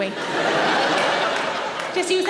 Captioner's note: audience laughing